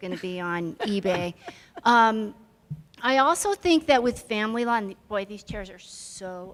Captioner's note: chuckle